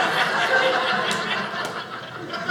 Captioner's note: audience laughing